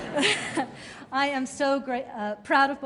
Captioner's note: laughter